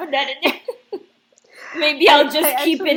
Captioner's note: laughs